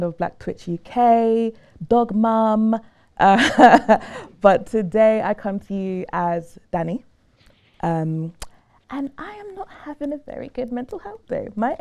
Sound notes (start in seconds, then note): 2.8 laughing